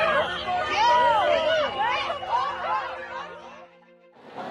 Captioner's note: people yelling